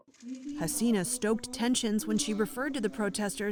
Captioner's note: voice-over